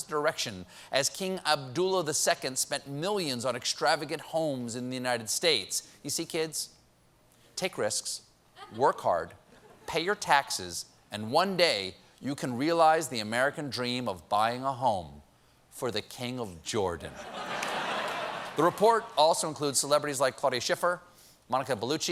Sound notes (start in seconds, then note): 17.1 laughter